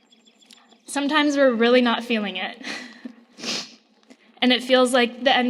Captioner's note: laughs